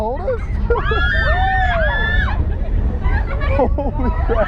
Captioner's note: riders screaming